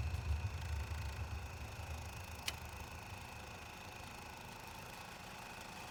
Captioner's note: film reel whirring